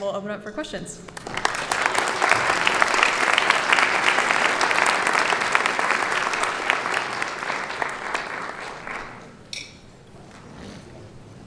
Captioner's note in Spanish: Aplausos